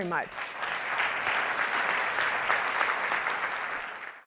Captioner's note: audience clapping